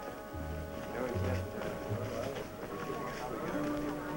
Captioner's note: chatter